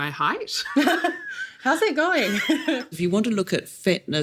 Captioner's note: laughs